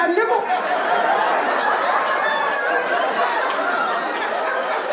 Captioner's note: audience laughing